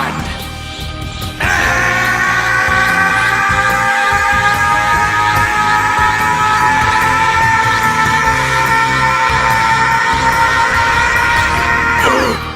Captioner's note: Goku yells